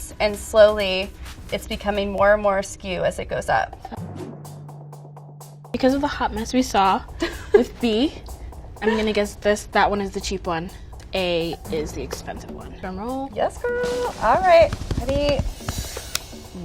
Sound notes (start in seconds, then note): 7.1 laughing